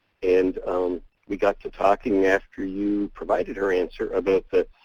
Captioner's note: voiceover